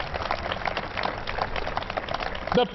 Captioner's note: applause